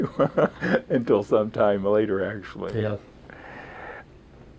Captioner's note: laughs